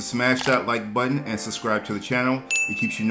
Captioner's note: ding